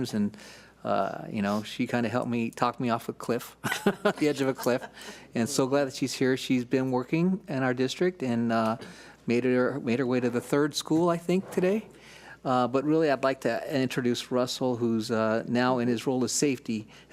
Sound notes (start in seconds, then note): 3.6 laughing